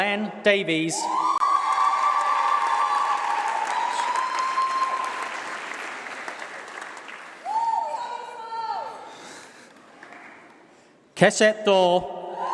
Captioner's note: applause